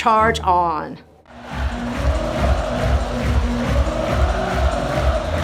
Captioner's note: audience cheering